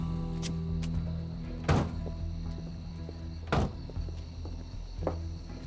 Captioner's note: car doors open; car doors close; footsteps